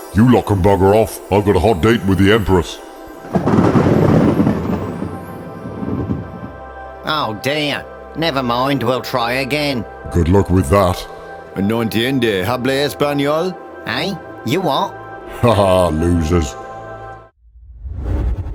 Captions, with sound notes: GOD “You lot can bugger off, I’ve got a hot date with the Empress” [ THUNDER CLAP ] FOREMAN “Oh dear! Never mind, we'll try again” GOD “Good luck with that” BUILDER “No entiendo, hablas español?” FOREMAN "Eh? You what?" GOD “Hahaha, losers!”